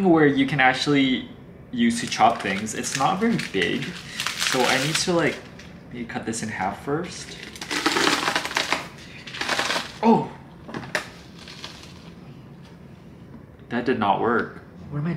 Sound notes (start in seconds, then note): 7.2 lettuce crunching